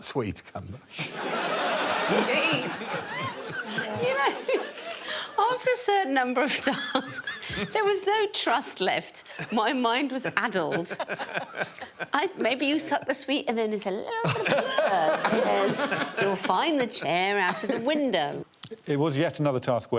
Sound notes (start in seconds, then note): 1.0 audience laughing; 12.6 Alan chuckling